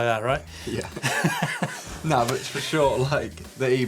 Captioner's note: laughter